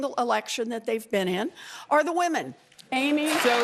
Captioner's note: cheers and applause